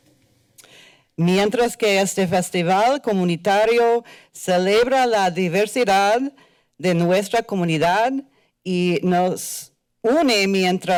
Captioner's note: foreign language